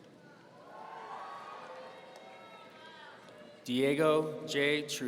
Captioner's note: audience cheering